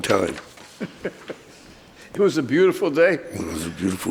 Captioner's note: laughing